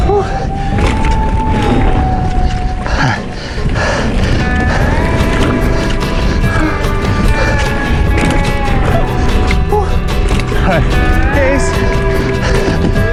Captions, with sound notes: (folk music continues) (heavy breathing) All right. Case!